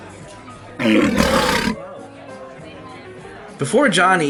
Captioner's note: monster growling